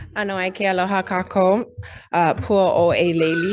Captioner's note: speaks in foreign language